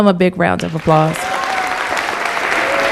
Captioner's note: applause